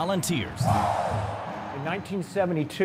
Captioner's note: crowd